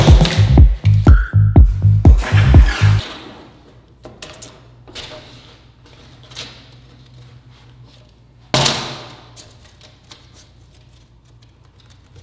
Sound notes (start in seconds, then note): 8.3 measuring tape thuds